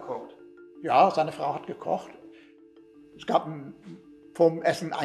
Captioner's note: interviewer speaking in German; speaking in German